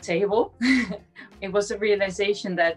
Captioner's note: chuckles